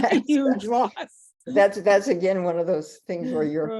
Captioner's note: laughter